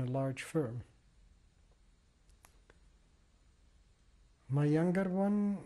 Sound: pauses for 3 seconds

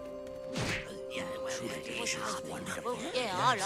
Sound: indistinct chatter

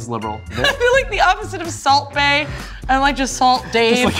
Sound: laughing

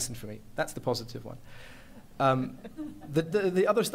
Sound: laughter

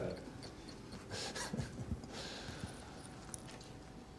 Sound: chuckles

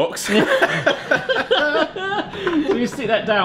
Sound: laughing

